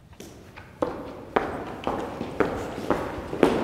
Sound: shoes thudding

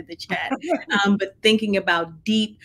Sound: laughing

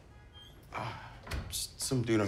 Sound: door closing

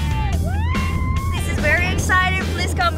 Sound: screaming

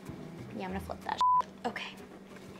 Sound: beep

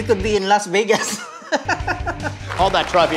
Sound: laughs

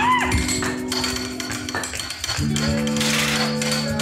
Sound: monkey chattering; stick clattering; metal clanging

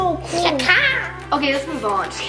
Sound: squawking

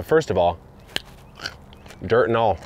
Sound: carrot snapping

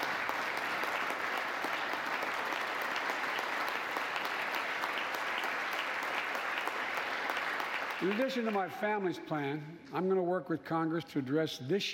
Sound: applause

